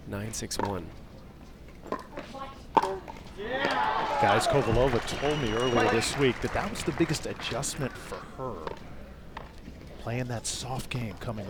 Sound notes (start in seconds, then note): 3.4 crowd applauds